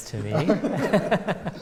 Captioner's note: laughter